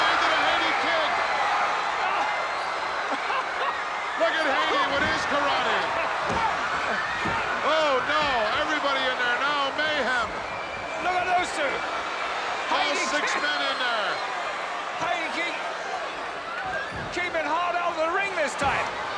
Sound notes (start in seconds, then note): 2.5 laughs